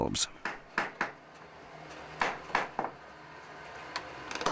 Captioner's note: hammers tapping